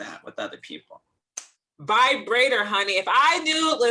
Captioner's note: snap